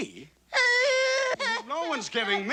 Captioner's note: sobs; gasps